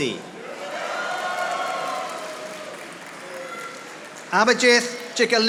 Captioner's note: audience applauding